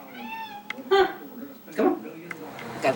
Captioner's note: cat meows